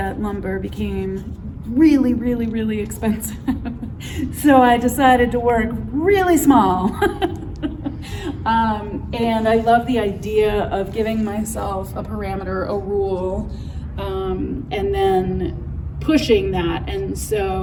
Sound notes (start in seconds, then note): 3.6 laughs